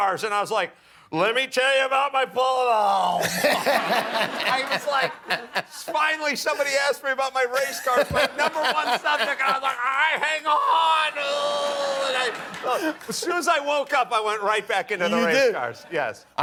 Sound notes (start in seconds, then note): 3.2 laughter